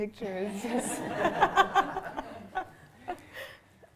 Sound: laughter

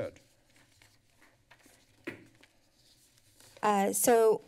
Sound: rustling paper sound

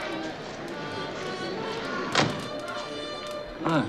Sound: car door closing

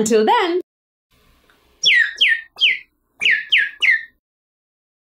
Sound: chirping

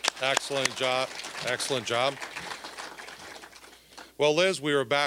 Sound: applause

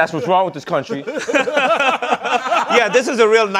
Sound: laughter

